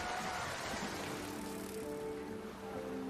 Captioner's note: bicycle whirring; gentle music; thunder rumbling; waves splashing